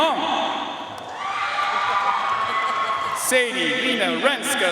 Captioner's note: audience cheering and applauding